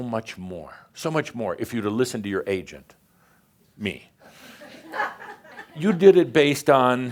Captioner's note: a few chuckles